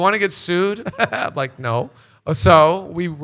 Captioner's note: chuckles